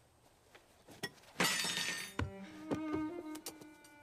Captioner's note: spoon Clatters